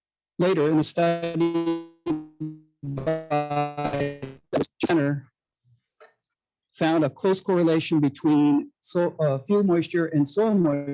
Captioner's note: audio interference